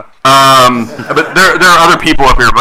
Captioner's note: attendees laughing